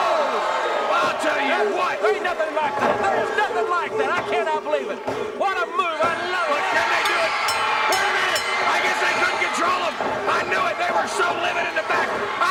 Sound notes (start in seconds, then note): 0.0 audience cheers; 6.8 bell rings